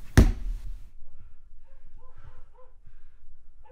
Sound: thudding

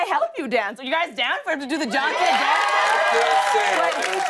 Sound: cheers and applause

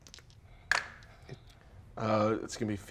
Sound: dice tapping table

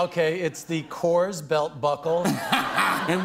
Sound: laughter

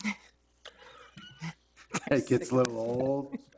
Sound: trustees chuckle

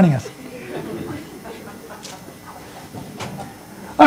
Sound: laughter

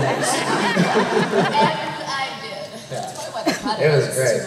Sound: laughter

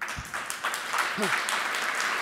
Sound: cheers and applause

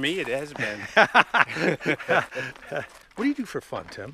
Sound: laughs

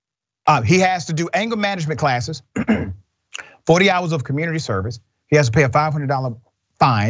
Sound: cough

